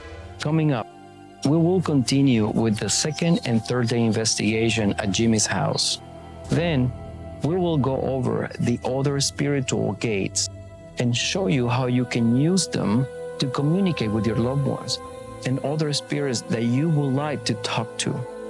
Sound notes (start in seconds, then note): none